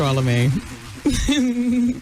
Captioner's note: laughing